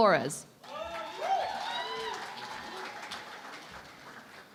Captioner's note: cheering and Applause